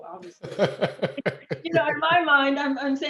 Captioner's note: laughs